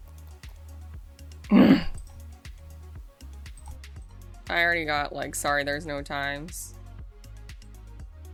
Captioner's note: angry grunt